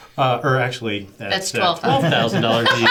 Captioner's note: laughs